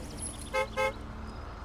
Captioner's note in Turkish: Korna sesi